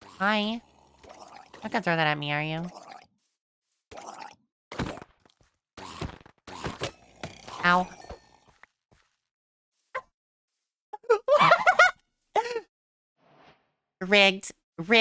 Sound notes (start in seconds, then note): 11.0 laughing in Disbelief